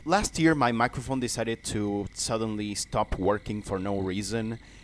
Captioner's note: none